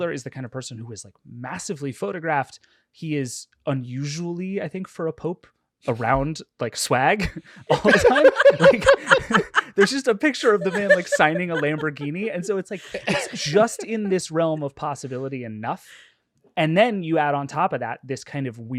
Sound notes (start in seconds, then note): 8.2 everyone laughing